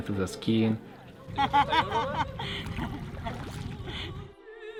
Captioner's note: people laughing